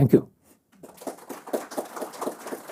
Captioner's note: applause